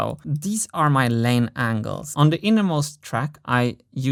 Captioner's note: none